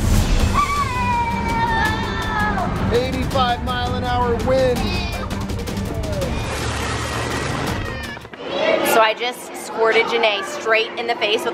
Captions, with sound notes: (intense music) (children screaming) 85 mile an hour wind. - So I just squirted Ginae straight in the face,